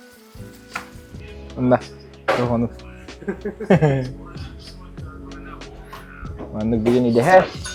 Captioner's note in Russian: смех